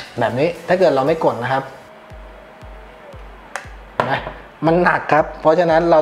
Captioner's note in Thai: ปรบมือ